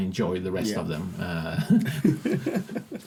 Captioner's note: laughing